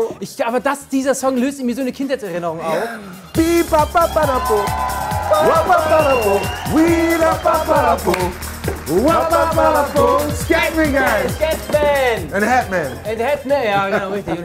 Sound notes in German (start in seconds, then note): 3.8 Jubel